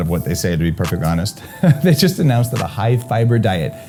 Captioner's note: laughs